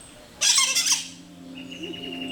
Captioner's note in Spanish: gritos de loro